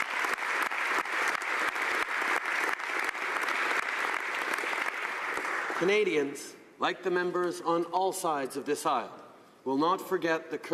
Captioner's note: applause